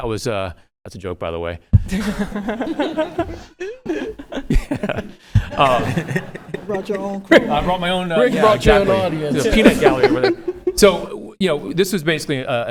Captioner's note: laughter